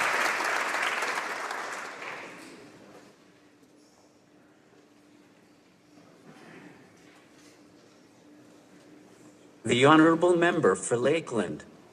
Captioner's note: applause